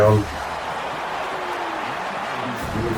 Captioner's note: crowd Noises